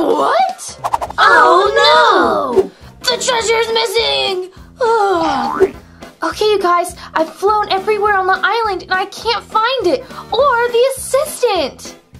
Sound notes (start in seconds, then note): 0.7 record scratches; 5.6 sighs